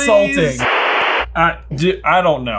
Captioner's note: static rustling